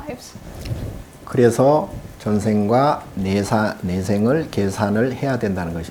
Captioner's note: speaking Korean